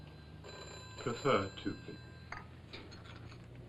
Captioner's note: phone ringing